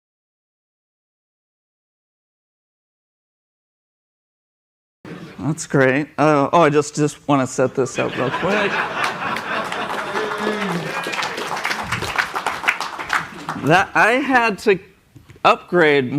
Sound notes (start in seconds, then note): 7.9 laughter; 11.0 applause